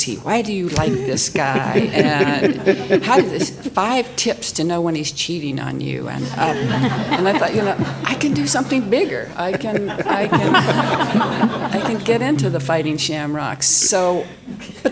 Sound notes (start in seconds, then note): 0.6 panelists laughing; 9.5 all laughing